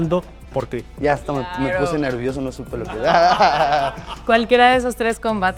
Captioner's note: laugh